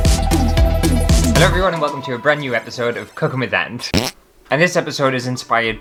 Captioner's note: intro Music; fart!